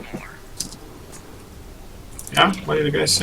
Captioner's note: Beard on the radio